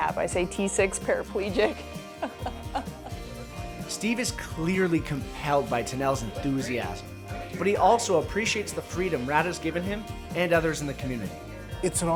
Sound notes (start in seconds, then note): 2.1 laughter